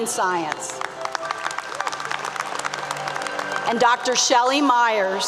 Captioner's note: applause 👏 👏